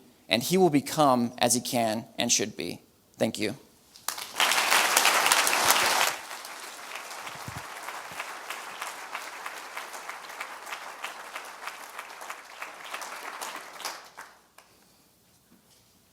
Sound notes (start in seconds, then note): 4.1 audience applause